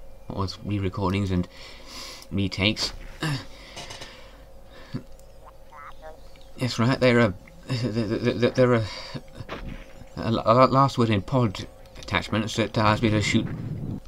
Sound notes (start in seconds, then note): 5.3 Ed prompts me in Grimloid language; 7.7 stutters